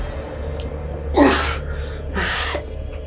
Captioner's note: sighs